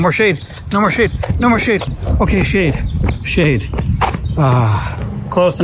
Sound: sighs

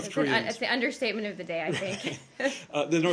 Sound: laughter

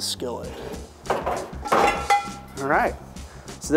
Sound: metal clangs

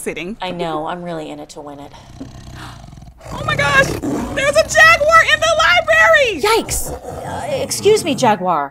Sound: growling louder

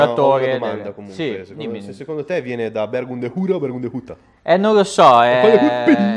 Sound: bergamo dialect

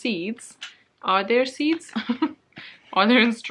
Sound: laughs

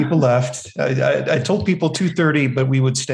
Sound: chuckling

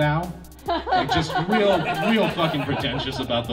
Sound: crowd laughing

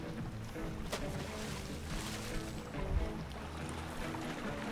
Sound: water splashes

